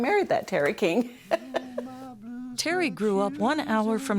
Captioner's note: laughter